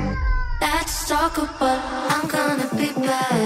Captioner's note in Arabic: بكاء الطفل